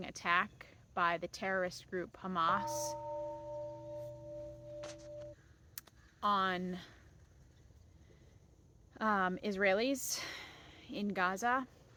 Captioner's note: bell rings